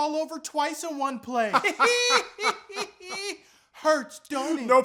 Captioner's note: joint troll laughter